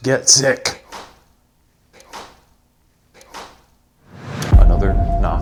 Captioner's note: object clicking